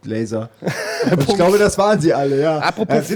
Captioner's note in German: lacht